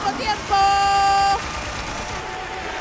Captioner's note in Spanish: Aplausos